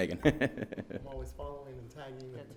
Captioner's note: laughing